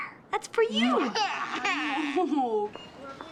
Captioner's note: crying